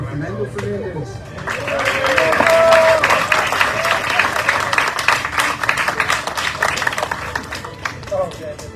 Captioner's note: audience cheering, applauding